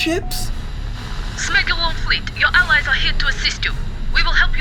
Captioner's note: russian voice on radio